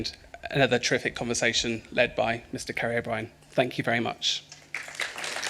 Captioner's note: applause